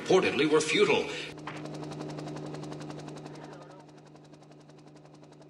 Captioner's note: helicopter blades humming